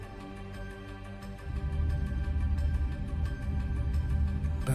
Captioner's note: discomforting rumble